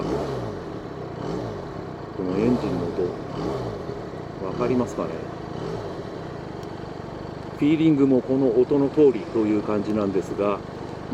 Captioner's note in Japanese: エンジンの回転